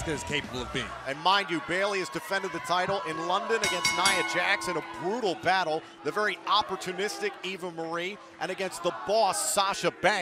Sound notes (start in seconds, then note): 3.6 bell ringing